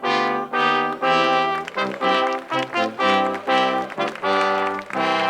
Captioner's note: crowd applauds